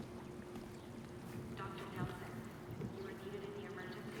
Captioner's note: voiceover